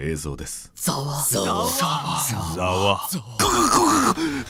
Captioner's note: murmur, murmur, murmur